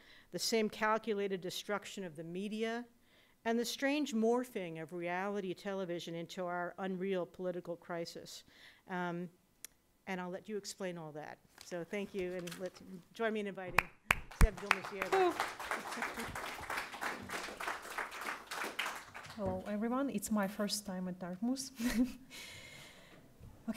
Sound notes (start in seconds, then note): 13.7 audience clapping; 21.7 laughs